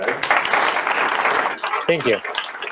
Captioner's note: audience applauding